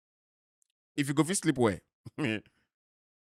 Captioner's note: chuckles